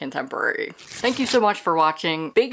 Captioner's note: page rip